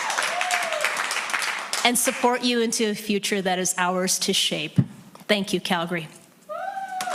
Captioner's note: cheering and Applause